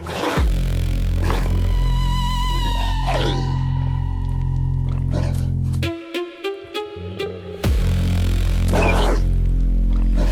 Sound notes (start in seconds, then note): 5.7 growling